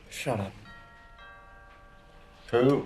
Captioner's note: DOORBELL RlNGlNG